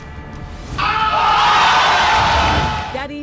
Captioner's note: suspenseful music; audience yelling